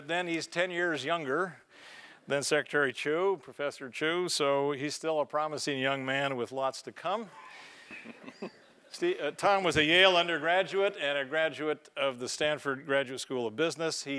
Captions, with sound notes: then, he's ten years younger than Secretary Chu, Professor Chu, and so he's still a promising young man with lots to come. [LAUGH] Ste, Tom was a Yale undergraduate and a graduate of the Stanford Graduate School of Business.